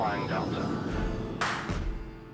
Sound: airplane engine roaring; upbeat music

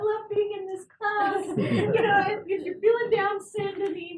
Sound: laugh

